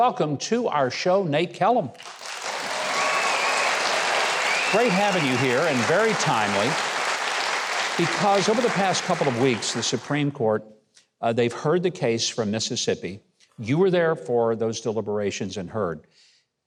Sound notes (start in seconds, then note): 1.9 applause